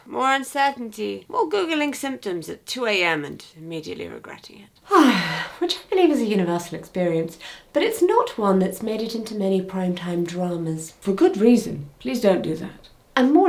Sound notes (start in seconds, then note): 4.8 sighs